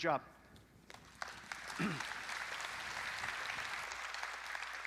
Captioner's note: audience applauding